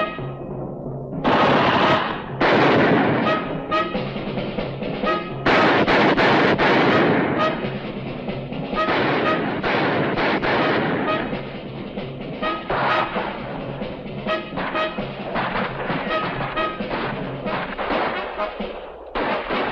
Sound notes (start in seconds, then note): 1.2 guns firing